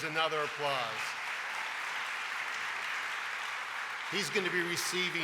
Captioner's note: audience applauding